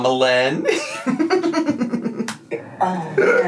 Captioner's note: laughs